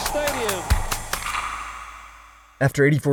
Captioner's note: crowd cheering; lively music